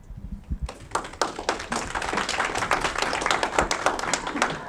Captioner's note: audience clapping